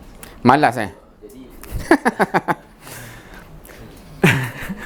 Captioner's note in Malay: ketawa